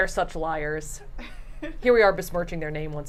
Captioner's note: laughs